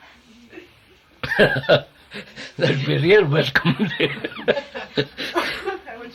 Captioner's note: laughs